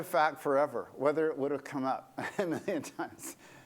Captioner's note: laughter